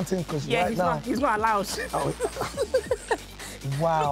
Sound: laughs

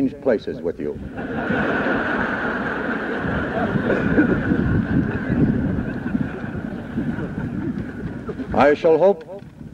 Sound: laughter

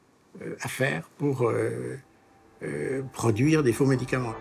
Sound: French spoken audio

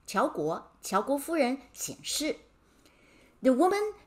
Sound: speaking in Mandarin

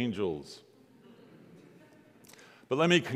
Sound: congregants laughing

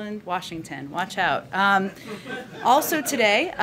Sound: laughter

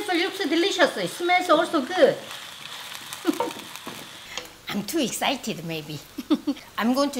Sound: chuckles

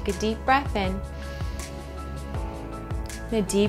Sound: breathing in

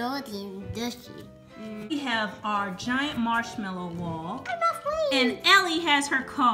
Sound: voiceover

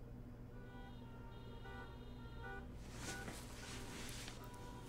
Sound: traffic honking

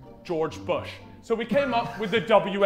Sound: Sidemen laughing

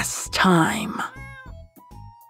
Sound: meow

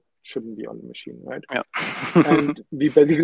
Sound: laughs

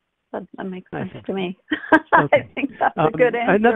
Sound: laughs

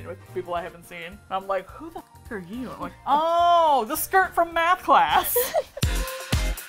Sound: laughs; upbeat Music

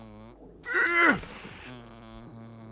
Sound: grunts

